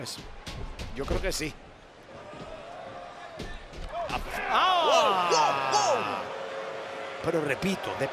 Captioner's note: applause